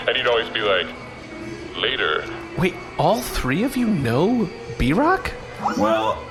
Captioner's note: imitating cool voice; sighs